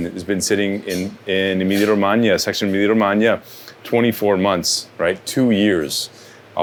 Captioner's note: speaks Italian